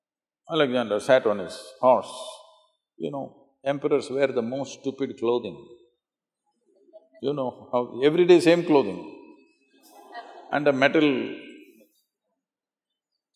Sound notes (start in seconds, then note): 9.9 laughter